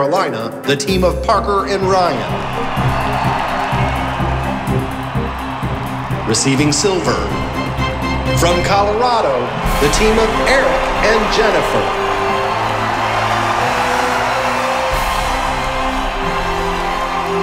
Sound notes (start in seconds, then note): 2.3 crowd cheering; 11.8 bright triumphant music; 11.8 crowd cheering